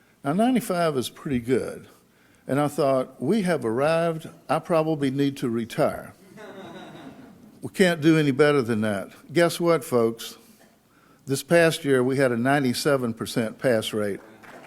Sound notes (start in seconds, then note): 6.2 audience laughs; 14.1 audience claps